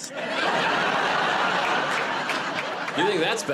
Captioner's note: laughter